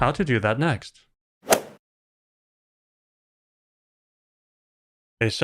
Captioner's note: golf ball hit sound